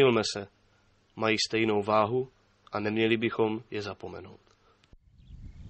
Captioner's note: bird Singing, Wind Blowing